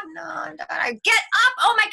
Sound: groaning

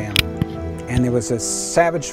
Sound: guns fire

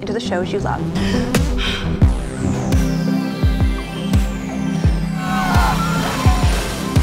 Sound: dramatic music; Eleven breathing heavily; characters yelling

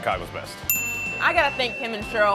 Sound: ding

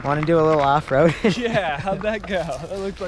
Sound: laughs

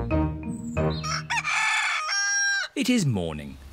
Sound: cockerel crows

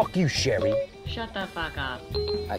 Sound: phone beep

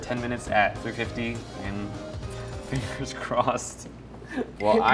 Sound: laughs

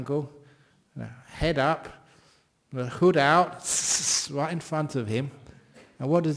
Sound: hissing

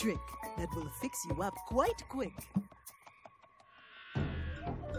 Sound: lisping

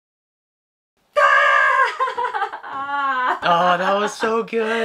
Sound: laughs

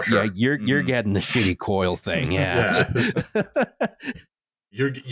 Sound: all laughing

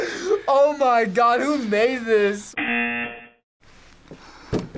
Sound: laughs; buzzer rings

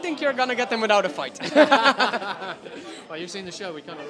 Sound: laughter

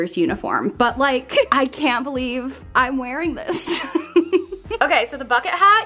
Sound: laughs

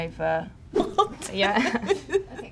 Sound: laughs

